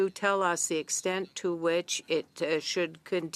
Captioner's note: speaking in French